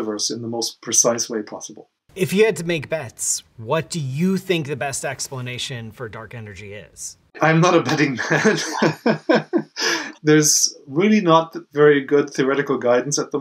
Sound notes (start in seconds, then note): 7.8 laughs